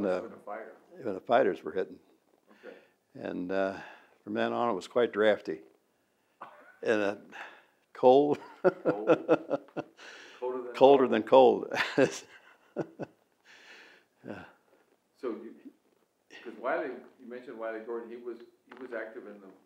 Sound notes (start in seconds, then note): 8.3 both laugh; 15.7 laughs